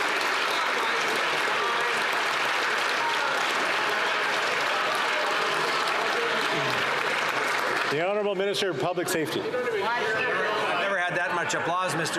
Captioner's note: applause